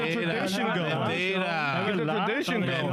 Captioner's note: speaking In Foreign Language